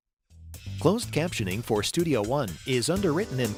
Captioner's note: voiceover